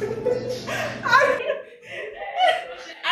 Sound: laughing

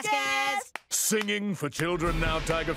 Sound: clapping

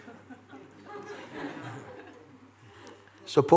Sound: laughter

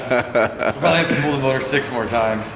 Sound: laughing

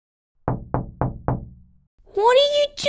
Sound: knock! Knock! Knock! Knock!

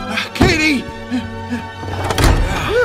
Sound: gasping; door thuds

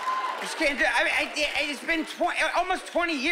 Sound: stammering

